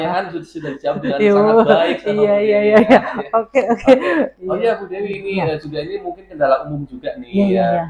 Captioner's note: laughs